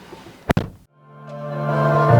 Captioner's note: door Thud